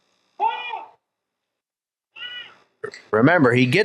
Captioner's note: handler shouts